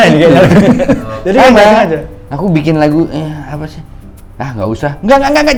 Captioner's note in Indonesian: tertawa